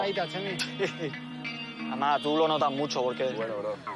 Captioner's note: laughs